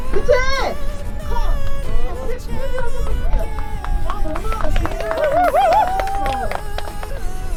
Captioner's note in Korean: 몸을 사리지 않는 연기에 쏟아지는 박수 세례